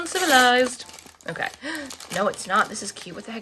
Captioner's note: in snobby voice; gasps